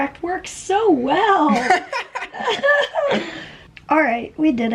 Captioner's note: laughter